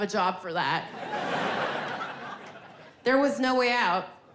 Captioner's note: audience laughing